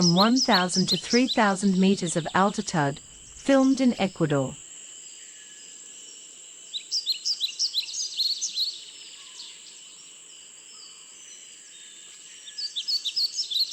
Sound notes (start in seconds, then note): 4.8 birds chirping; 4.8 birds singing